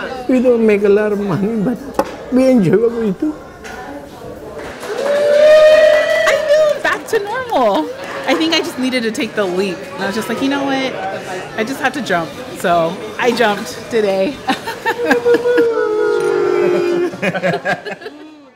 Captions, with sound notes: -You don't make a lot of money, but we enjoy what we do. (cheering and applause) -I feel it’s back to normal. I think I just needed to take the leap. I was just like, You know what? I just have to jump. So I jumped today. (laughter) (cheering)